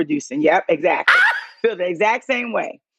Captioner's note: laughs loudly